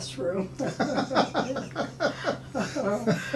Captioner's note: laughing